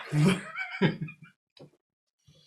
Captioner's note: all laugh